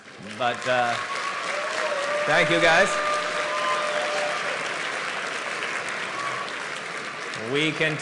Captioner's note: applause and Cheering